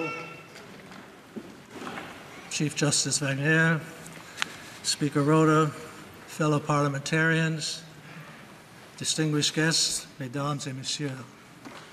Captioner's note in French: voix de l'interprète